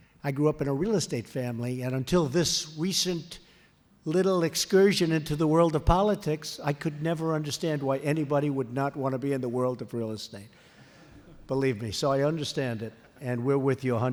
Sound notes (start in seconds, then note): 11.0 laughter